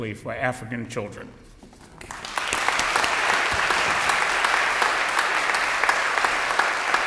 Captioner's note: audience applause